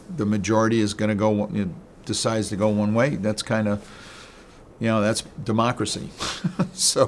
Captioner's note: laughs